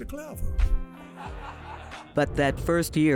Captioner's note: laughter